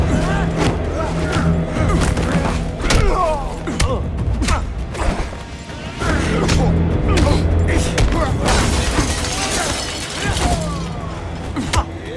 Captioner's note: groaning